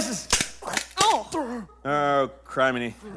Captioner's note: crack